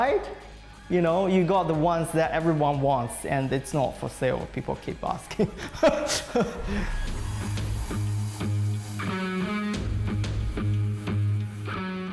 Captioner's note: laughs